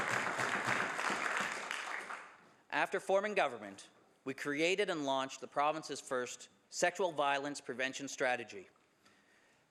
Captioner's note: some Applause